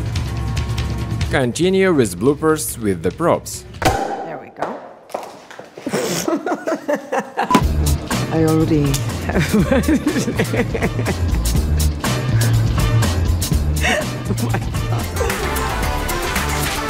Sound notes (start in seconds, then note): 5.8 laughing; 13.7 laughing